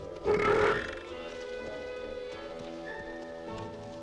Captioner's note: Torente belches